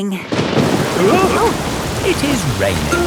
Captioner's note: thunderclap; parents gasp